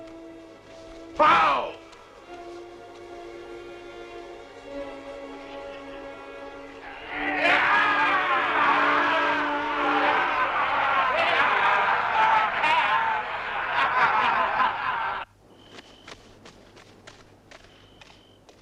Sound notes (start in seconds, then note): 7.4 chieftains cheering; 15.4 crickets chirping